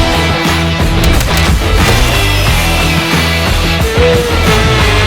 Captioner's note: epic music; power tools revs